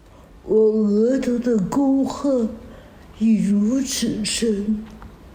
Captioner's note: woman speaking in Chinese language